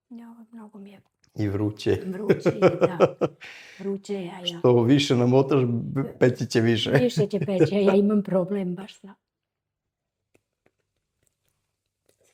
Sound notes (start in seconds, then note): 2.0 laughs